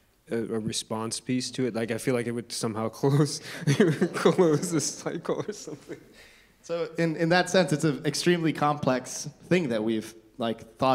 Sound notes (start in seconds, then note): 3.5 laughs; 3.6 audience chuckling